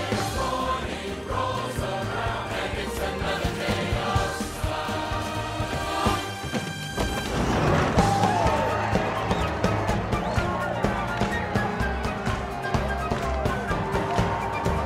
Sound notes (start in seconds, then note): 7.7 instrumental break; 9.6 all cheering